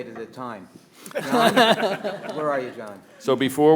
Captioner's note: attendees laughing